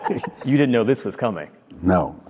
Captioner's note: laughter